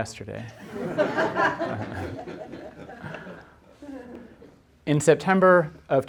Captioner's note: audience laughing